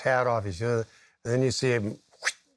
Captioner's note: mimics ripping noise